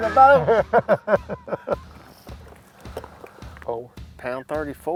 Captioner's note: men laughing